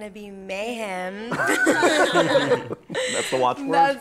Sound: laughter

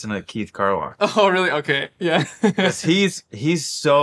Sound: laughing

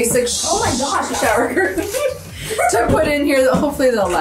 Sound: laughing

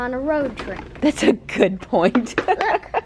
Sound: chuckles

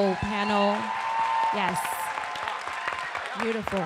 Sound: audience applauding

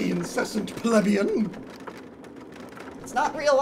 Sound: wagon rolls off-screen

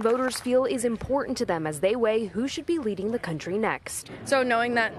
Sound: applause

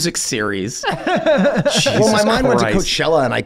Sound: all laughing

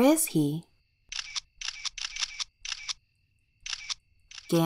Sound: clicking sounds

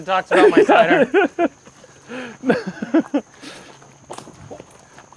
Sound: laughter

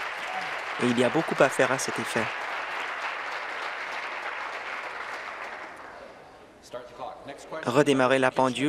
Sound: applause

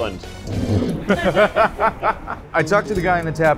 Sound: laughing

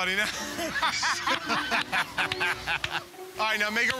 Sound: laughter

